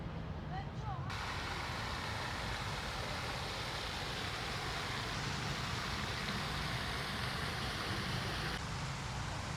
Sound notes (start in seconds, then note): 1.1 water fountain sounds